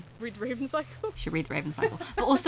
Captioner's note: laughs